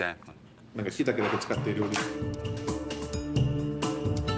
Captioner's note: speaking in foreign language; upbeat music